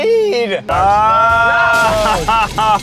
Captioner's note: screaming; collision clamor